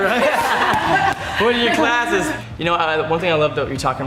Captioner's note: laughs